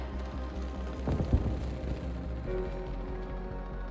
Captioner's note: explosions